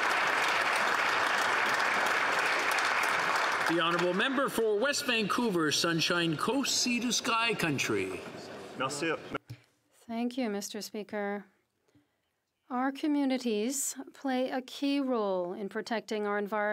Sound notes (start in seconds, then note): 0.0 some Applause